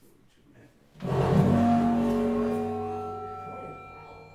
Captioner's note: loud buzzing noise